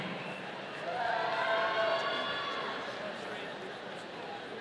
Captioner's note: audience cheering